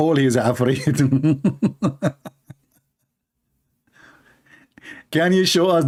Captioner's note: Ketawa